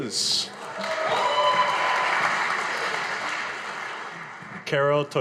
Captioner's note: audience applauding